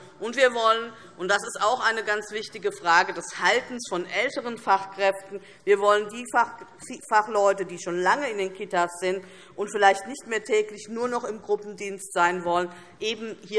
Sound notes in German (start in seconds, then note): none